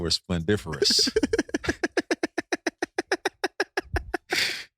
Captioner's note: laughing